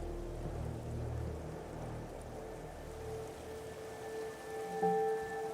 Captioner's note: water trickling